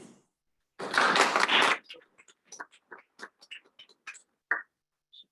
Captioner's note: applause